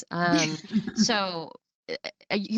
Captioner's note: chuckles